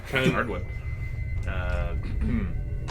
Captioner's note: clears throat